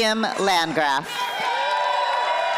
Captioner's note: applause